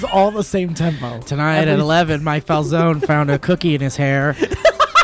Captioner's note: in News Broadcaster voice